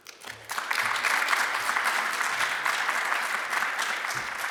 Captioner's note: audience applauding